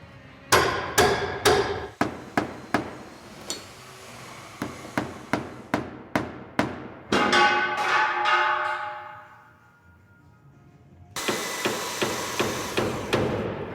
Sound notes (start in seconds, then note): 0.5 hammering; 7.1 metal falling; 11.1 sawing and hammering